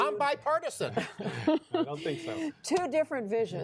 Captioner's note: laughter